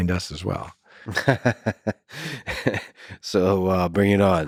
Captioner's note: Lex laughs